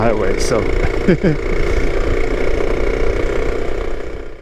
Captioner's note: laughs